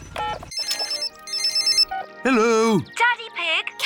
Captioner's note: phone rings